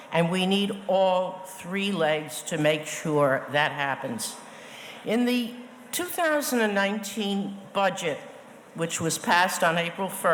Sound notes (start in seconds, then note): none